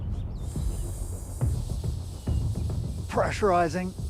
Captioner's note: hissing